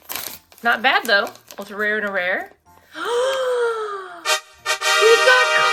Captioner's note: gasps; triumphant fanfare plays